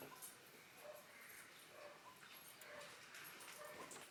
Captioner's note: keys jingling